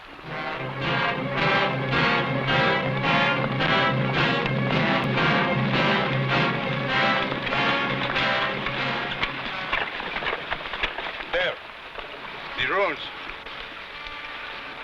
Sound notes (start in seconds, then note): 0.2 tense music; 4.7 horse hooves pattering